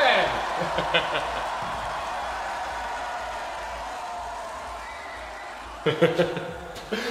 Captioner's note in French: Applaudissement